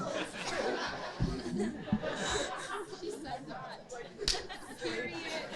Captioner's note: casual chattering